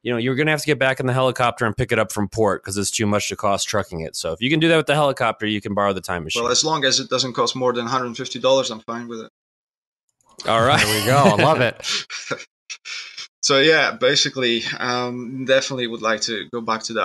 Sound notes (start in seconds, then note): 10.4 laughs